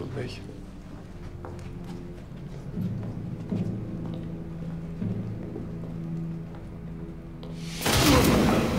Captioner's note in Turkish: Müzik - Gerilim; Ayak sesleri; Yumruk sesleri